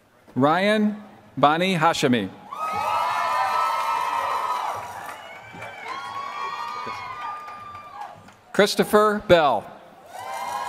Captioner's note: applause; applause